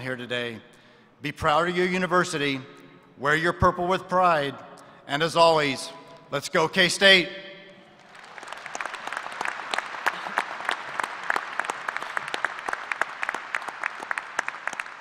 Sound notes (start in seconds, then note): 12.3 applause